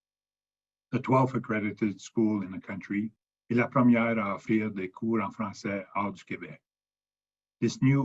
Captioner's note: speaking French